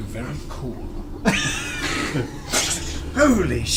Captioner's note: all laugh